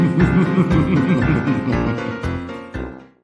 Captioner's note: evil laughter